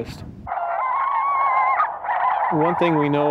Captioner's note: coyotes howling